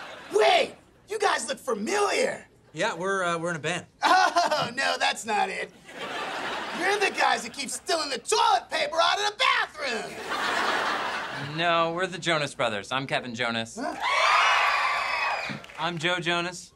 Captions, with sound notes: Wait, you guys look familiar! - Yeah, we're er-- we're in a band. - Oh, no, that's not it. You're the guys that keep stealing the toilet paper out of the bathroom! [laughing] No, we're the Jonas Brothers, I'm Kevin Jonas. [cheering] I'm Joe Jonas.